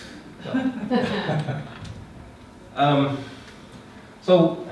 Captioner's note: students laughing